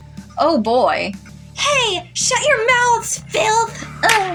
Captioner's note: girly Voice; whip Crack